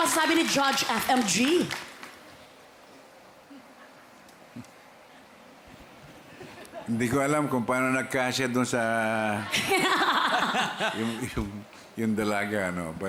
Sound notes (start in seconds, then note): 6.2 chuckles softly; 9.3 laughter